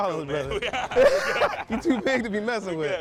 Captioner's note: laughs